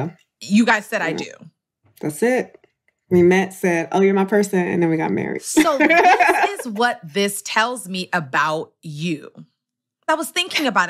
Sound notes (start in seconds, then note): 5.6 laughs